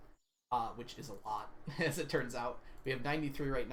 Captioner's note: laughs